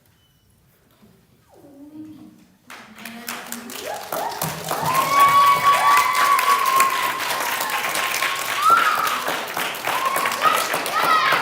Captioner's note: applause